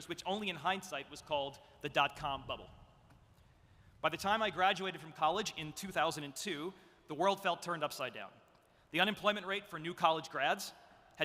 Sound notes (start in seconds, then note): none